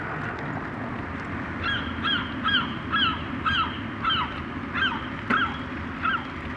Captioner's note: seagull